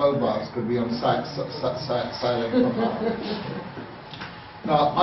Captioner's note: someone laughs